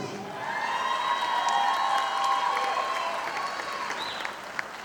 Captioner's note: audience applauding